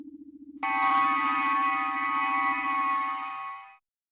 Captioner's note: transporter sound